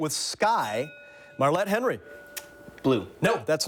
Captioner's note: bell dings